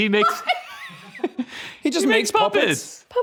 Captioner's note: laughing